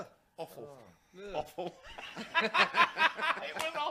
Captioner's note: laughs